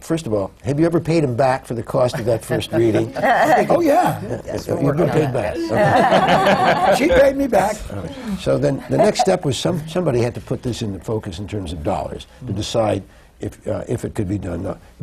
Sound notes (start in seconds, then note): 2.1 laughs; 5.6 laughter